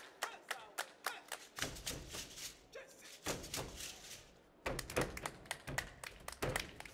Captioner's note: hands clapping and feet stomping